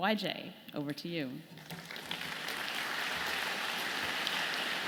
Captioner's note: audience clapping